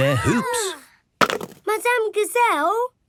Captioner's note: laughs